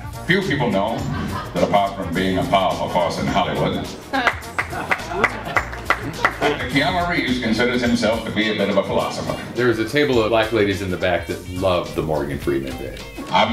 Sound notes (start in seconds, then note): 4.2 applause